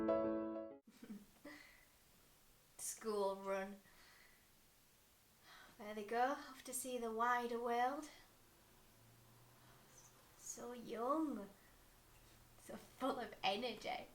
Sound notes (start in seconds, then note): 0.0 music fades; 0.9 chuckle